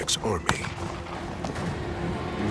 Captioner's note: gunfire